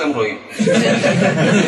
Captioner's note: laughter